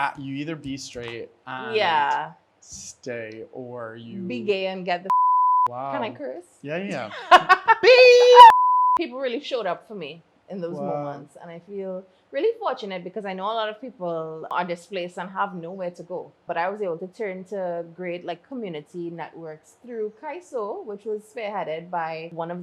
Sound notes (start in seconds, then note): 5.1 beep; 8.4 beeps